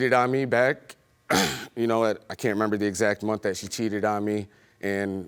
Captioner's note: clears throat